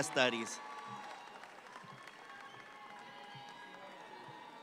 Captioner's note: audience clapping